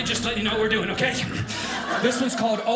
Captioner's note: audience laughing